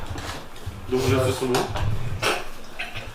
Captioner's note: laughs